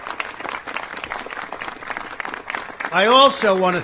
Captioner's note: applause